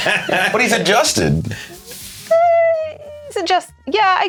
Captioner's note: squeaks